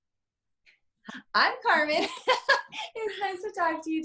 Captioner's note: laughs